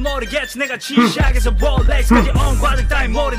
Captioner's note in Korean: 흠- 흠!